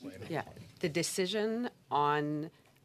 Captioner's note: speaking French